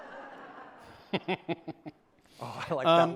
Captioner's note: laughter